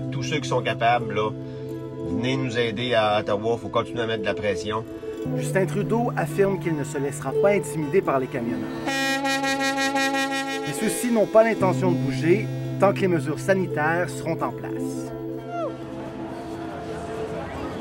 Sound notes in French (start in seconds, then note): 9.1 klaxons